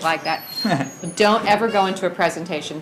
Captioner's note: laughs